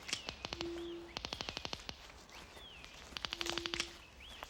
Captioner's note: detectors clicking